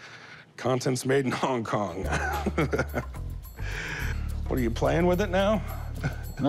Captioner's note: chuckles